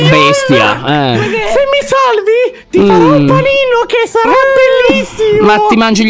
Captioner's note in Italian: con voce acuta